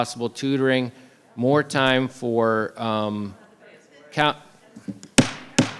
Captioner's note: gavel bangs